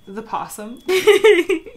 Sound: laughs

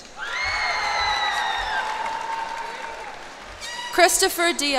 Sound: cheers and applause

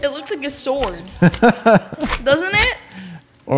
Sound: laughs

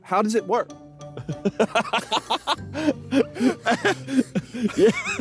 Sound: laughing

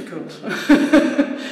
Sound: laughs

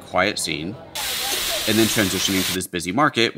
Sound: food frying

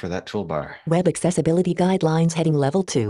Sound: automated Voice

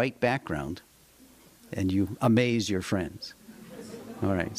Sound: laughter

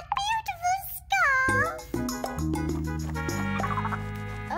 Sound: giggles

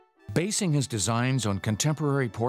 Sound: voiceover

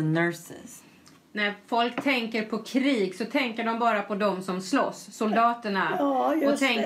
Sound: foreign language

